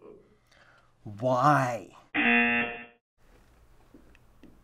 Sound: buzzer rings

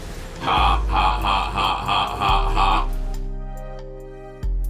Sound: Blitzcrank laughs

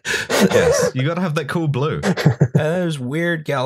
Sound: laughter; laughter

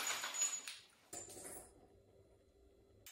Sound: glass smashes

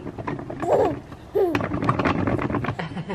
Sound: swing rattles; laughs

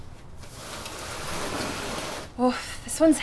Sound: scraping sounds

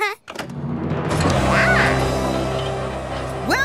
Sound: laughing; quacking

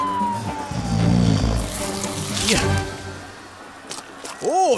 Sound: skin tearing

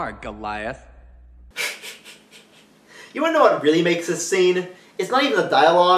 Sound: laughs

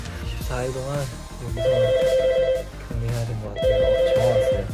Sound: suddenly the phone rings

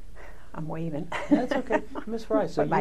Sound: laughter

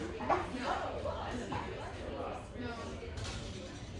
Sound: people talking

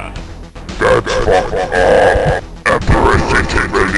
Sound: demonic voice

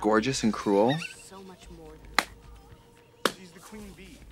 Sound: Katya hisses and slaps

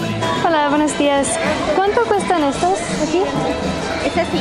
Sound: speaking in Spanish

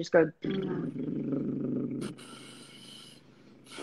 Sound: buzzing sound

